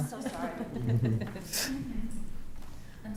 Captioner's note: attendees laughing